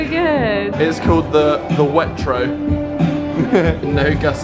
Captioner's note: chuckles